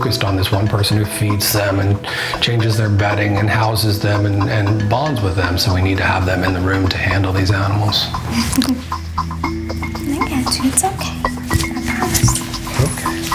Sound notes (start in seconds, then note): 8.4 woman chuckles